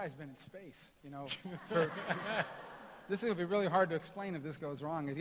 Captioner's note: laughter